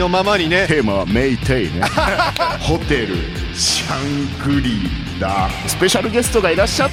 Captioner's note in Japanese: 笑い